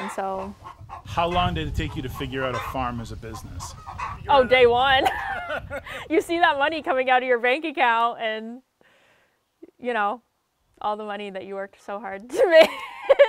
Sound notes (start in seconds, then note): 4.2 laughs